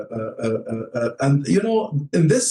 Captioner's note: foreign language 01:13:20